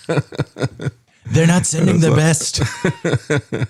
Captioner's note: laughs